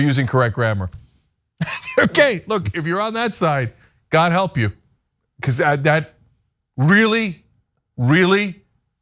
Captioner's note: laugh